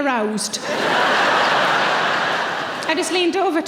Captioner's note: audience laughing